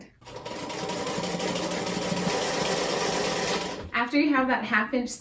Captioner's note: machine whirring